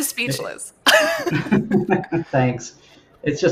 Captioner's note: laughs